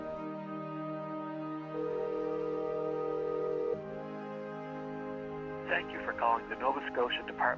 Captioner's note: soft poignant music; phone ringing